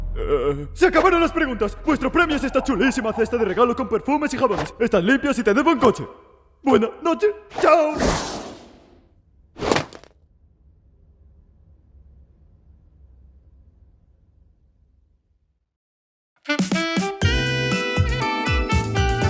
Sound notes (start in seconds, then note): 7.9 swoosh!; 9.6 basket thuds; 16.4 upbeat jazzy music plays